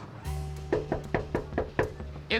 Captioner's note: knocking